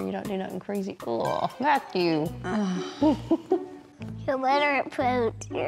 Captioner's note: giggles